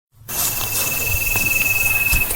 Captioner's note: footsteps